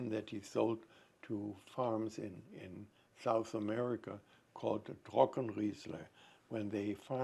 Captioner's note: german